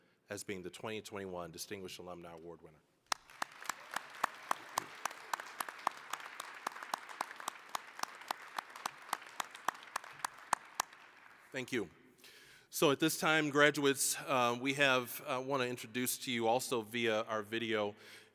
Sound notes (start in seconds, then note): 3.1 applause